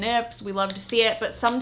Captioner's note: clapping